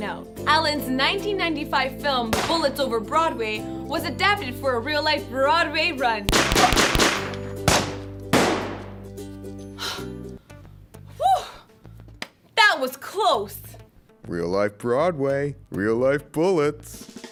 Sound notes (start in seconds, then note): 6.3 gun sounds